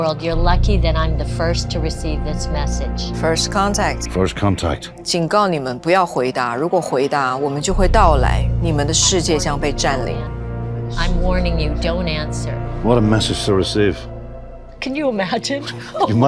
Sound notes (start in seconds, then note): 5.2 speaking in foreign language